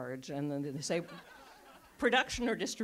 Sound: audience laughs

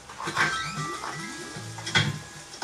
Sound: playful music; door squeaks; door slams

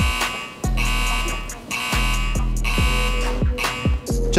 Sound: siren

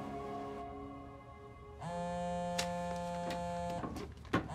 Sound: phone buzzes

